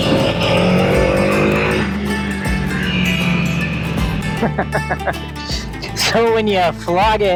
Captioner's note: laughing